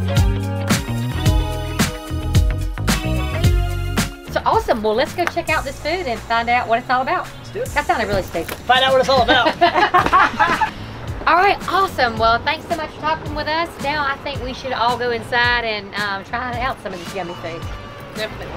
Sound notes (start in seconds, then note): 9.0 all laugh